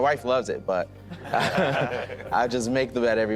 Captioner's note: laughing